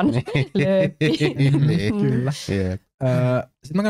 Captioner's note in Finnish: nauravat